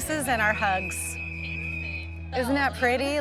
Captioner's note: whistle blowing